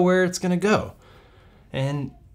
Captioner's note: take a deep breath